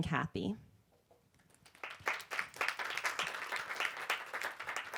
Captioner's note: applause